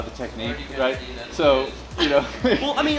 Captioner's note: laughs